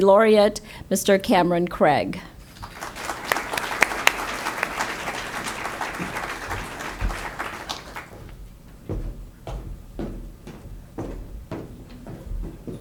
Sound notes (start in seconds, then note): 2.4 audience applause